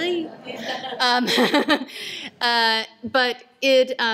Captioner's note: laughter